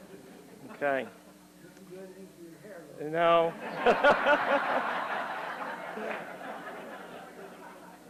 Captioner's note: laughter